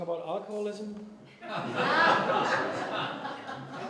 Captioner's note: laughter